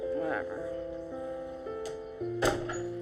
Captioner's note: door closes